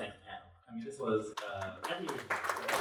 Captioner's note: applause